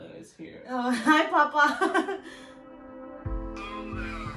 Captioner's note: laughs